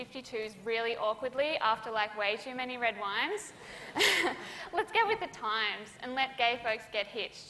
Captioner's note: laughter